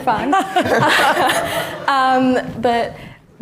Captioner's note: all laughing